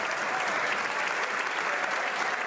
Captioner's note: some Applause